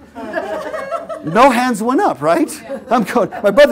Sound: laugh

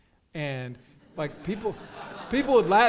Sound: audience chuckles

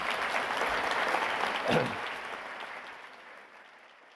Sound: applause

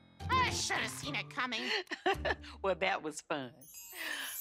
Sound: chuckles

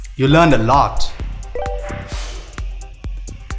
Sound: phone rings

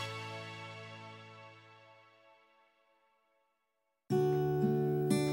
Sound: silence

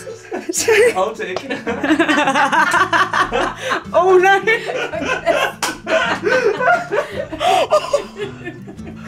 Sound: laughter

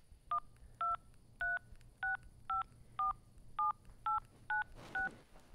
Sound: dialing phone number

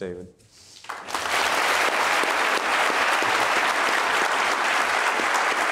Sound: audience applauding

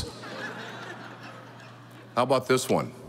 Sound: audience laughing

